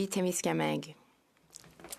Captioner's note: speaking French